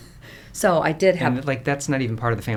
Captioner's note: chuckles